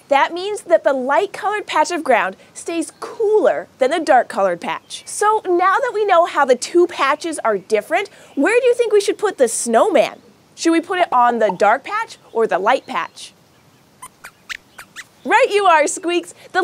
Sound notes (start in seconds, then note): 14.0 squeaks squeaking